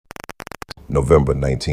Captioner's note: static